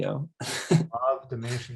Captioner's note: chuckles